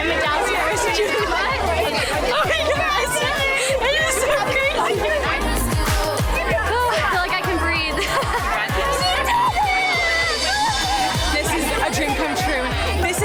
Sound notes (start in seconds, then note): 5.0 upbeat music; 6.9 exhales; 8.9 laughs